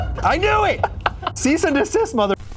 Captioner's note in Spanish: ríe; carcajea